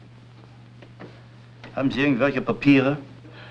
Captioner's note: German